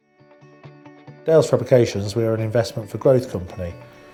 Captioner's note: voiceover